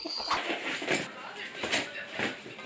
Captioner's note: sound of plastic cracking